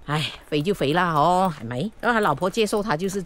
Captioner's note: Cantonese